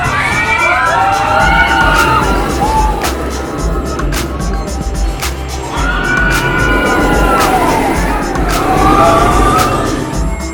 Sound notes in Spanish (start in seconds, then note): 0.2 carcajadas; 2.3 montaña rusa rodando; 5.6 música hinchable; 5.7 carcajadas